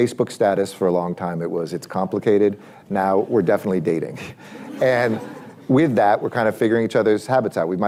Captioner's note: laughter